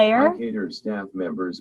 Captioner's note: automated Voice